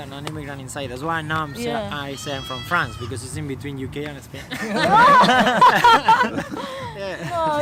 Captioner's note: laughter